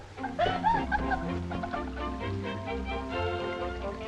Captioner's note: upbeat music; water splashing; Patsy laughing